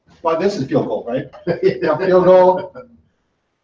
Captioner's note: laughs